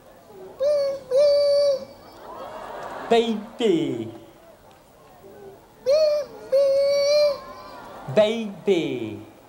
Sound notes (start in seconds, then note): 1.8 crowd cheers